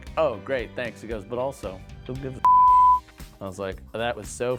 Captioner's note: beep